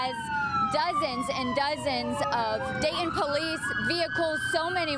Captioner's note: sirens